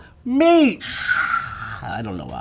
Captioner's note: imitating cheering